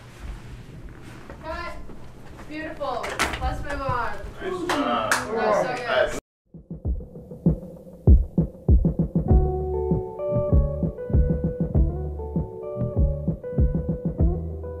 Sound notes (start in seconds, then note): 6.3 crowdha ctters; 8.6 upbeat music